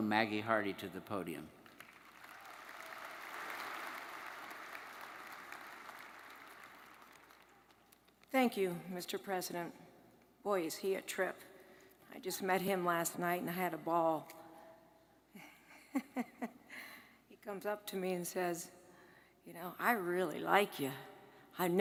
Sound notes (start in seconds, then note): 1.6 audience applauds; 16.4 laughs